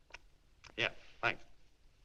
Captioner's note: none